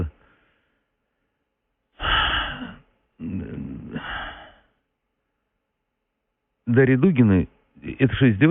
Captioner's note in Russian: глубоко вздыхает